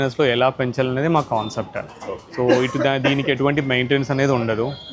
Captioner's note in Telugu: నవ్వు